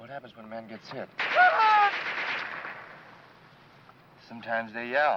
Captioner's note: gun firing; soldier screaming